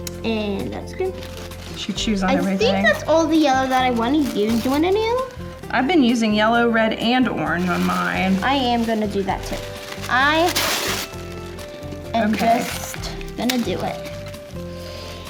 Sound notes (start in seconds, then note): 11.2 paper rustling